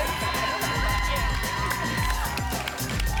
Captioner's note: applause and cheering cont